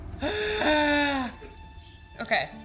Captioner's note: sighs